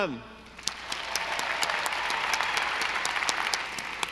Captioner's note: audience applauding